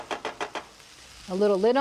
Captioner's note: tapping